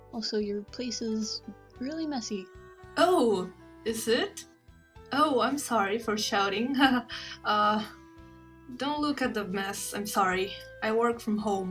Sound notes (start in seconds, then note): none